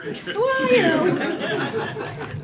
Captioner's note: laughter